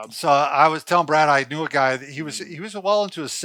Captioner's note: none